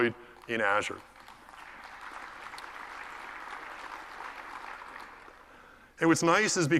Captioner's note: applause